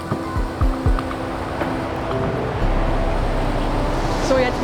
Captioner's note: loud wind noise